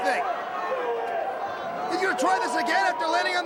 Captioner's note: crowd cheering